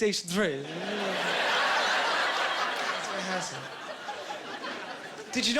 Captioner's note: laughing